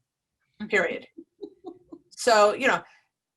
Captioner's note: woman laughing